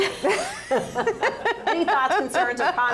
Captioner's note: laugh